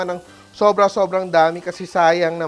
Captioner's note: sizzles